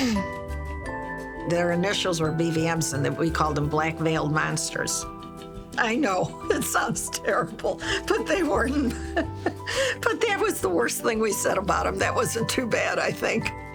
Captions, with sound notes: - Their initials were BVMs and we called them Black Veiled Monsters. I know, it sounds terrible, but they weren't. (laughing) But that was the worst thing we said about them, that wasn't too bad, I think.